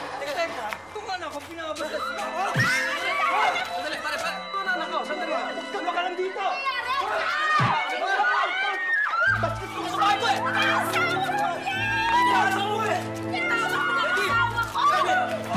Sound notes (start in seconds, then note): 2.3 Jen screams; 2.3 thuds; 7.6 thuds